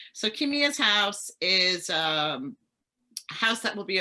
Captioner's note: none